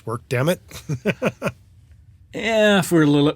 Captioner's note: laughs